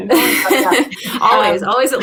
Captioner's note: laughter